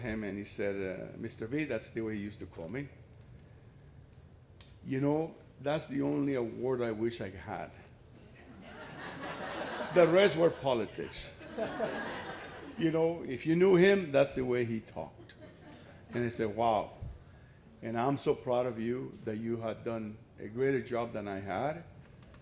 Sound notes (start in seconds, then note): 8.3 laughter